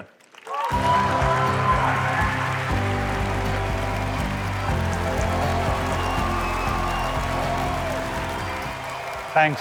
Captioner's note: applause